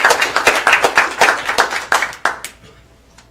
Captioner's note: applause